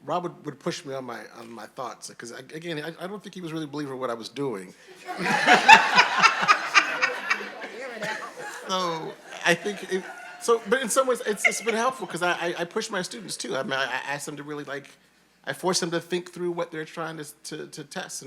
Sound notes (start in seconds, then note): 5.3 all laughing